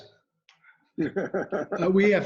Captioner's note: laughs